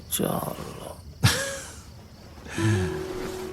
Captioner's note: laughs